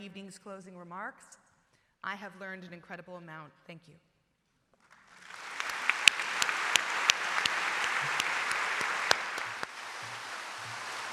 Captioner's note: appplause